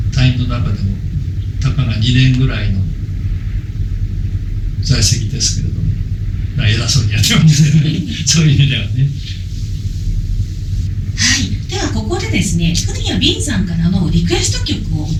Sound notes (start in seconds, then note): 10.6 laughs